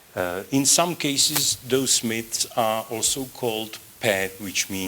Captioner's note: non-english